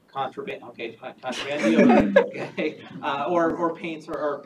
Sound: all laughing

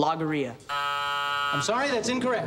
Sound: buzzer sounds

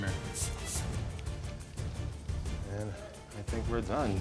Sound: spritzing

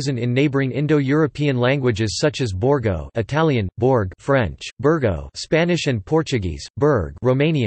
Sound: Italian

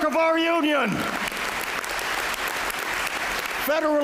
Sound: applause

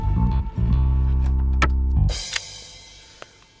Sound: locks

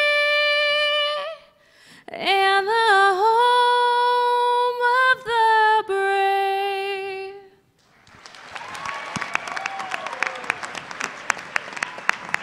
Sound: cheers and Applause

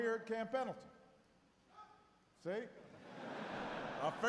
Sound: one person cheers; laughter

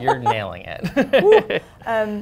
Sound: laughter

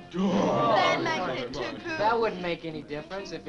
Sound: all chattering

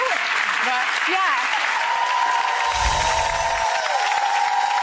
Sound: audience cheering

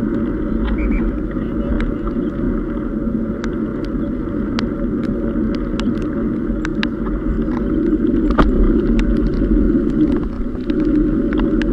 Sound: traffic police officer’s whistle

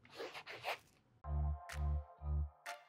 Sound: writing on page; upbeat music

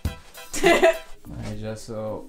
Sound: laughs

